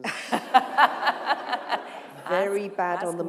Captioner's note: laughter